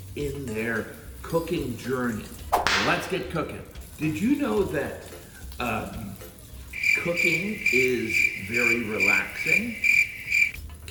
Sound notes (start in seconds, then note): 2.5 whip snapping; 6.7 crickets chirping